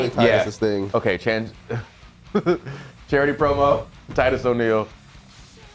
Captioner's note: laugh